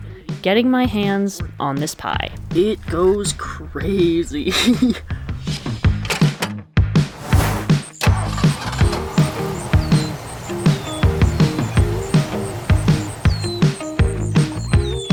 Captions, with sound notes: getting my hands on this pie. ...it goes craaazy. [Laughs]